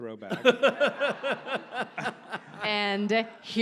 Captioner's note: audience laughs